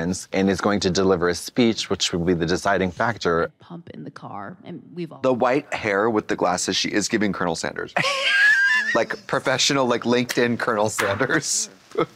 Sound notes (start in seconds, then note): 8.2 Katya titters; 11.9 Trixie chortles